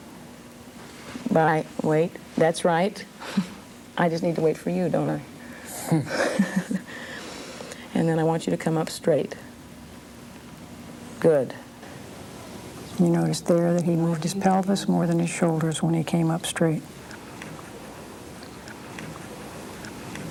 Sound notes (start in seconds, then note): 5.8 laughs